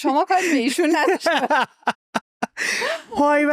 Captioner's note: laughs